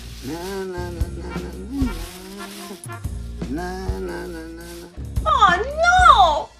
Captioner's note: Luigi hums